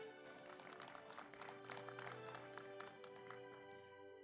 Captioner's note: audience applauds